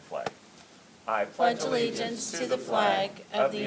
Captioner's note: everyone reciting the "Pledge of Allegiance"